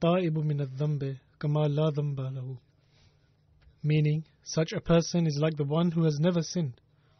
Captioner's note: Arabic